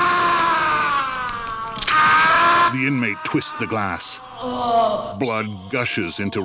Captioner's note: shouting & groaning; screaming in pain; groaning in pain